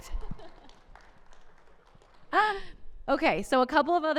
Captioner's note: audience applauding